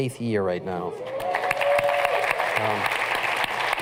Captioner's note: cheers and applause